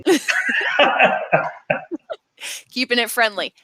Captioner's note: laughing